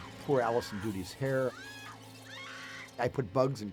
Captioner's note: screaming